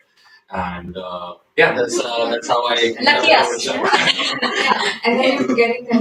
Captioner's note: laughter